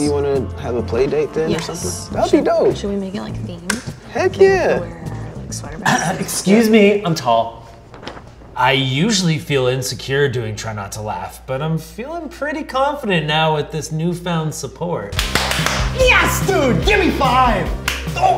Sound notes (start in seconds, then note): 5.6 coughs; 15.1 clapping loudly